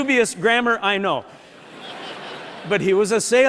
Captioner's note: laughter